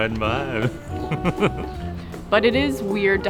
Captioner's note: laughter